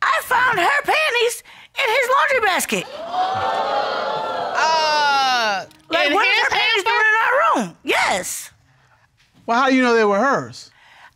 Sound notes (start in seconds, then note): 2.8 audience exclaiming